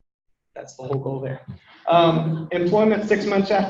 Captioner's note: people laugh